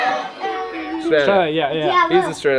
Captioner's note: in Unison